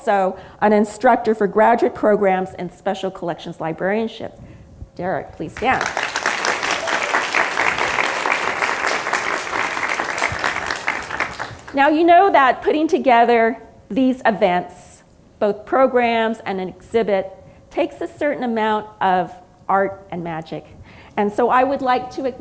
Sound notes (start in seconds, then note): 5.6 applause